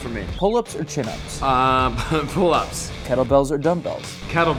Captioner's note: laughing